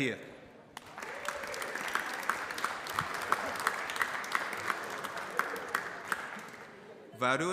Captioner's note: applause